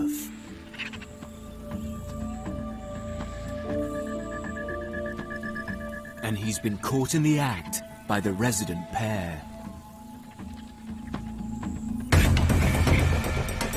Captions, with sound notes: And he's been caught in the act by the resident pair. (dramatic music) (jackals barking)